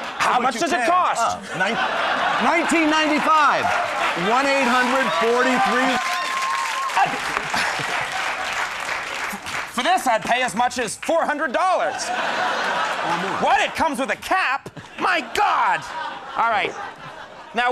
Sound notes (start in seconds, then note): 5.8 crowd applauds; 11.1 crowd laughs